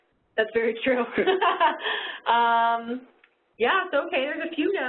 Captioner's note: laughs